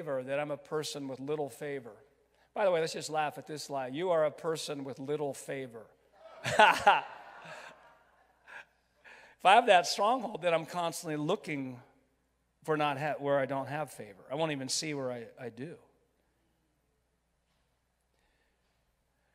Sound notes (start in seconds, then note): 6.3 laughs; 6.3 crowd laughs